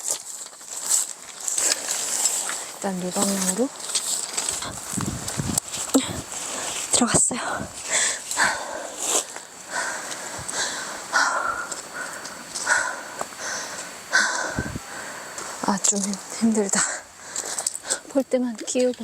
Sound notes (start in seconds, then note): 12.6 panting